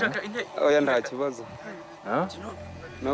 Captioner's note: speaking Kinyarwanda